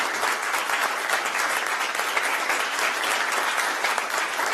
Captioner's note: applause